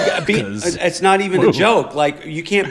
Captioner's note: laughter